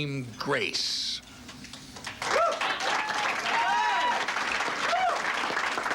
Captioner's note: clapping and cheering